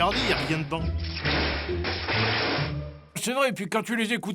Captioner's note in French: grésillements électriques